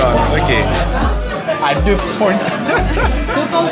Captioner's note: laughs